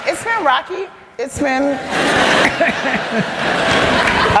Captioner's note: laugther